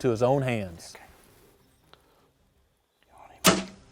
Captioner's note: whispering